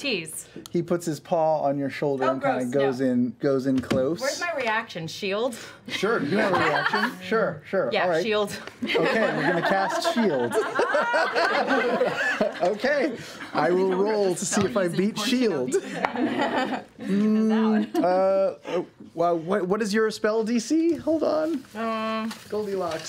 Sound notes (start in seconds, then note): 8.8 laughter